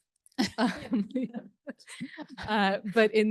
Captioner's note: panellists laughing